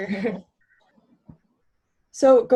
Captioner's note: both laugh